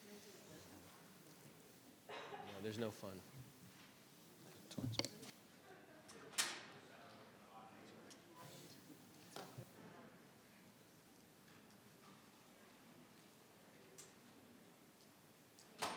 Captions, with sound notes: No, there's no fun. (crowd chattering)